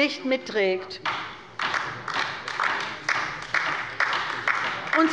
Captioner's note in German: Beifall bei der LINKEN